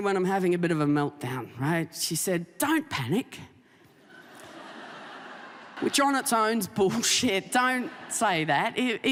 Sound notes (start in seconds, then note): 4.1 audience laughing